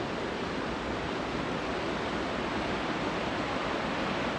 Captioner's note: water sounds